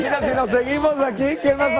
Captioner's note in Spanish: risas